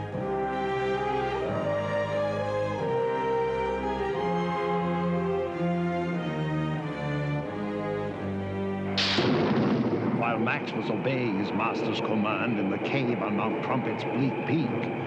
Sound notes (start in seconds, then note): 9.0 thunder rumbles